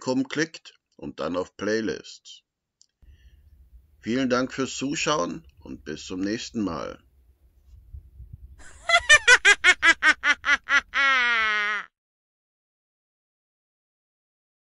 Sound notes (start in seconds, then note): 8.6 witch's laughter